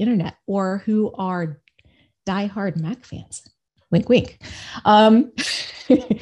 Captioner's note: laughs